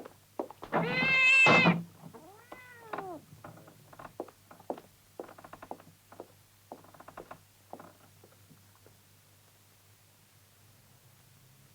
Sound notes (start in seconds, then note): 0.7 cat meows; 2.8 chair creaking